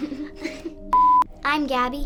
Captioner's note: laughs; abrupt beeping sound